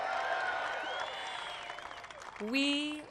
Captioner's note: applause